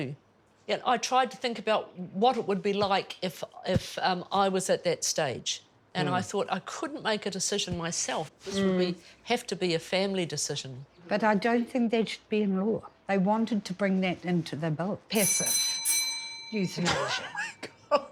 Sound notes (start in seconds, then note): 15.2 doorbell rings; 16.8 laughs